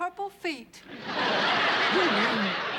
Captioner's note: laughter